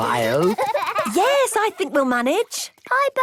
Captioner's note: giggling